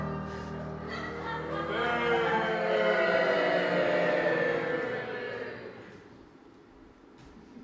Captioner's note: audience boos